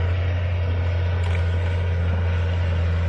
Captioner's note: machinery